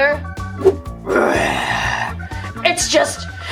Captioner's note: growling